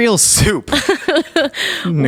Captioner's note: laughing